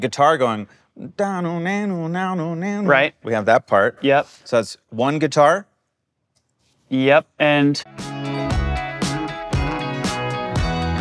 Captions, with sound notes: we have the guitar going (imitates guitar) - Right. - We have that part. - Yep. - So it's one guitar. - Yep, and.